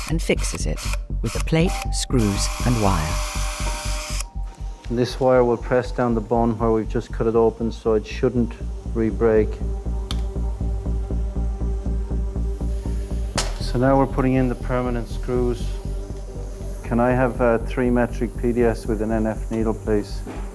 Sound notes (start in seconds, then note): 4.1 drill machine buzzing; 10.7 suspenseful music